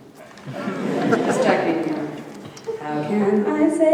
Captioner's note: audience chuckling